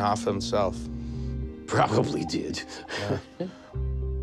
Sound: chuckling

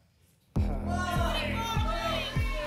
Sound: audience shouting numbers

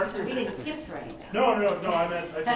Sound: chuckling

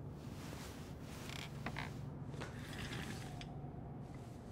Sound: chair creaks

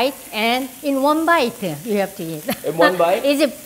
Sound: laughs

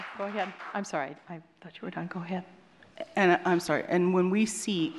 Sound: applause

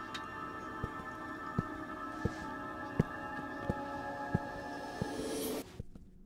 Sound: suspense Music; footsteps

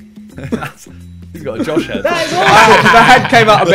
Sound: laughs

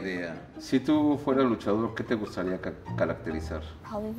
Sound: speaking foreign language

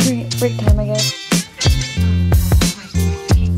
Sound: tv noise in background

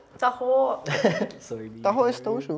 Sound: chuckles

